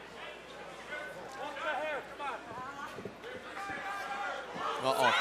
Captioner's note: crowd chatter